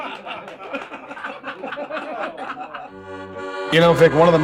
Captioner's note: laughter